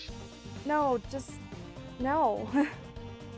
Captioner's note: laughs